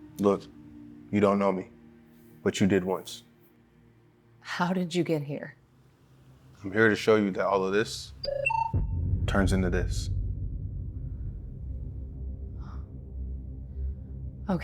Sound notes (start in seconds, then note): 8.2 machine beeping; 11.2 atmospheric music